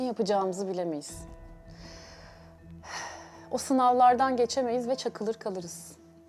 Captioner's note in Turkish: iç çeker